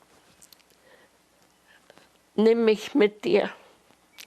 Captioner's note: german